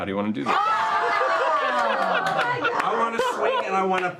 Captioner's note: cheering